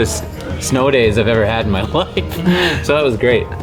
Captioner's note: laughs